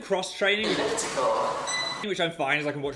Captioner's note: machine beeping